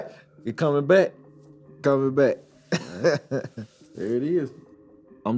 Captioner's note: laughs